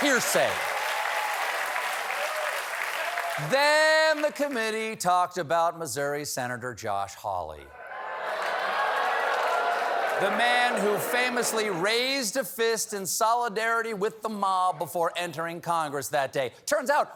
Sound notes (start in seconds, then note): 8.2 applause